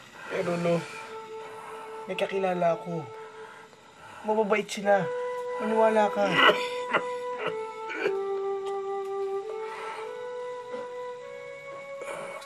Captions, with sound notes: But, Grandpa, I know some people. They're kind people. Believe me. [Grandpa coughing]